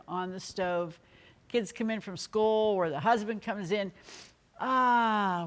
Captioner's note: inhales